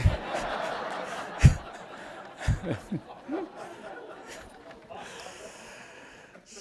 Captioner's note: audience laughing